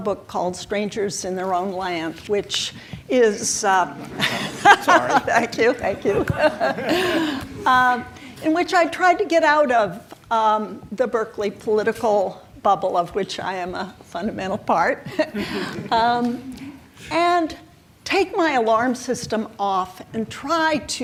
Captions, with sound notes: called Strangers in Their Own Land, which is-- - Sorry. (laughs) Thank you, thank you, in which I try to get out of the Berkeley political bubble of which I am a fundamental part and take my alarm system off try to cross over